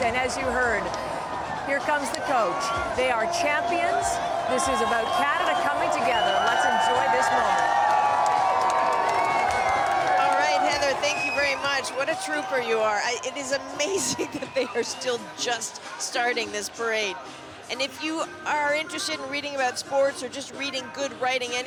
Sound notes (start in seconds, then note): 9.9 cheers